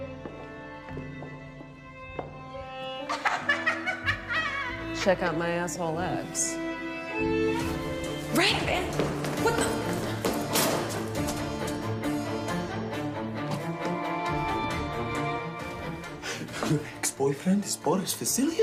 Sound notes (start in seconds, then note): 0.0 feet tapping; 3.0 Veronika laughs; 7.3 dramatic music begins; 10.1 orchestral music continues